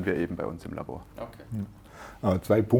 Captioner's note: snort